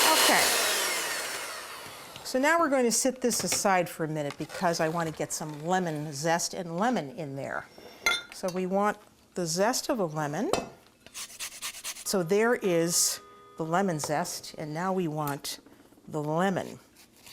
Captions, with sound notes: So, now, we're going to set this aside for a minute because I want to get some lemon zest and lemon in there. So we want the zest of a lemon. [grating] So there is the lemon zest. And now we want the lemon.